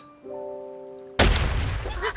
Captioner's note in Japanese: バキッ